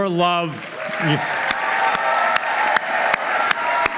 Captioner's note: applause